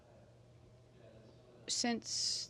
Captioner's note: speaking French